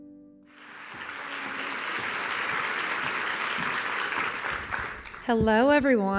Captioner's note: applause